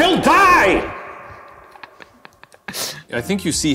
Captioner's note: laughing